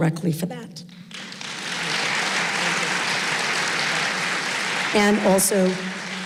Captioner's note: applause